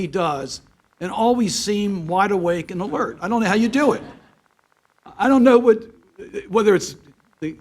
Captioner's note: laughter